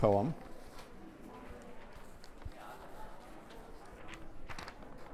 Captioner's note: crowd chattering